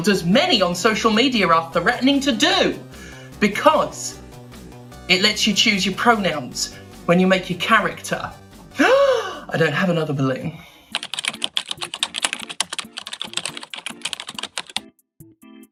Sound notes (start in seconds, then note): 8.7 gasp